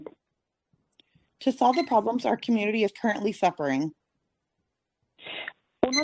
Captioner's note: speaking Spanish